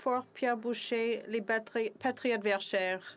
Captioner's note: speaking French